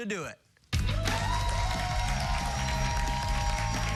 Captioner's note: cheers and applause